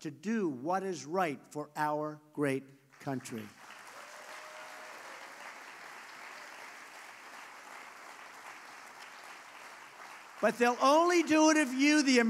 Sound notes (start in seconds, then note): 6.5 applause